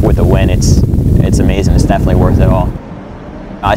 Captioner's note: traffic, city sounds